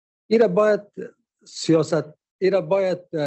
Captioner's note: speaking dari